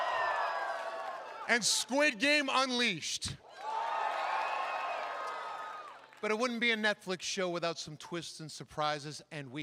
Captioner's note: cheering; cheering